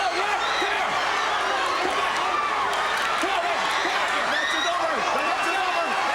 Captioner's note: audience roaring; group chattering